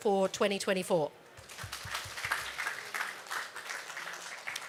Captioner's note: applause